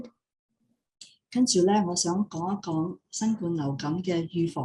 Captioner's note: non-english speech